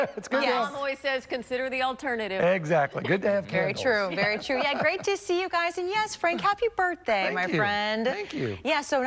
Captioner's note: laughter